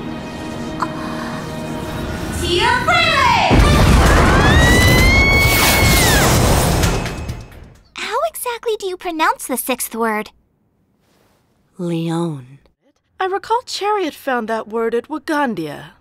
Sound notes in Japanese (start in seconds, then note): 3.0 アッコの悲鳴